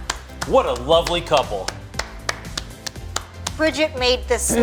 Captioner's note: upbeat rhythmic music; applauding